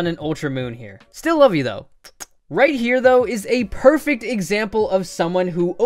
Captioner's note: smooch